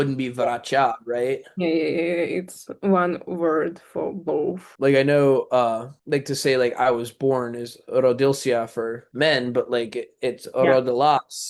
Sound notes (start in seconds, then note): 0.7 russian; 8.4 russian; 10.6 russian